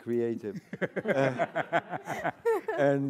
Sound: audience laughing

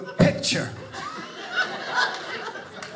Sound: audience laughing

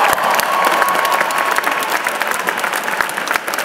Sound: applause

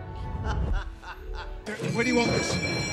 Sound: mischievous cackling

